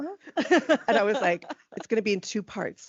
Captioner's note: laughing